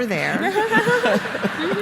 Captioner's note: laughter